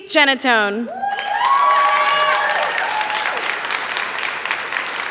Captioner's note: cheering